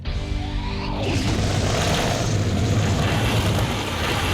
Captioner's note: engine roaring